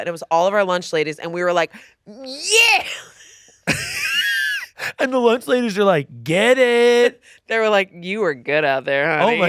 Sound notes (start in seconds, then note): 3.6 laughing